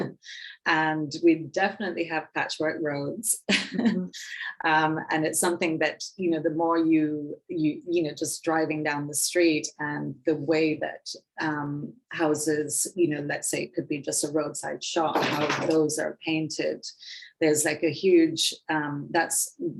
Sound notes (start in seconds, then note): 3.6 woman chuckling